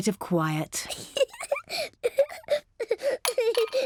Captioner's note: giggles